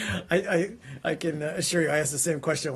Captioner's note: laughter